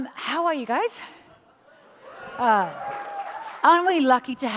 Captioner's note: audience cheers